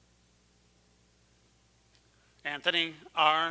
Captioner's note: none